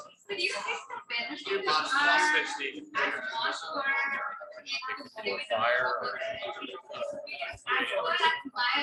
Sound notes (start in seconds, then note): 0.0 people chattering indistinctly